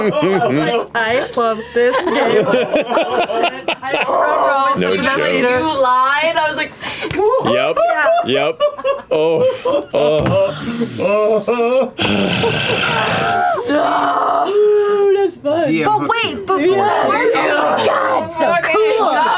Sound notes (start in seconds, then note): 0.0 laughter; 7.1 laughter; 11.9 sighs